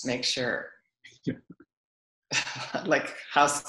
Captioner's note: laughs